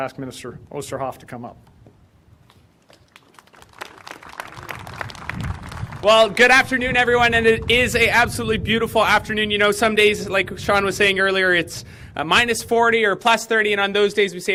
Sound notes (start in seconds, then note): 6.2 applause